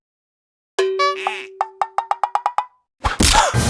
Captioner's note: chomp; sniff sniff